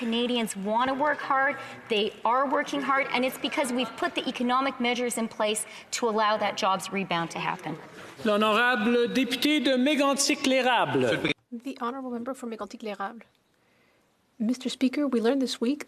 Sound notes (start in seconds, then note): 14.1 speaking French